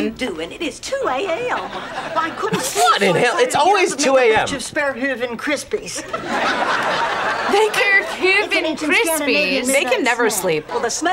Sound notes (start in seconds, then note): 6.0 audience laughs